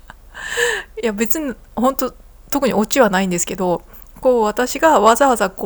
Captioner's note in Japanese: 息をのむ音; 笑い